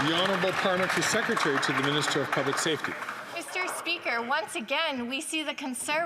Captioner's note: some Applause